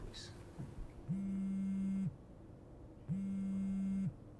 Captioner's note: phone ringing